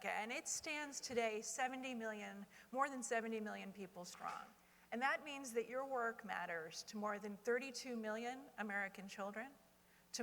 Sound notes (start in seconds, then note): none